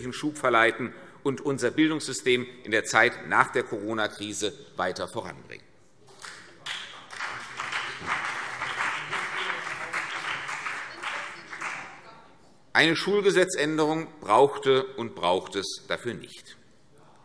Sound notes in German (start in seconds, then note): 6.1 Beifall BÜNDNIS 90/DIE GRÜNEN und CDU